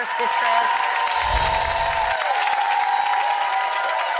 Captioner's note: audience applause